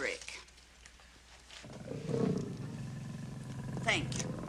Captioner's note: growling